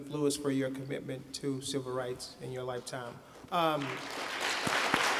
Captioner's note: applause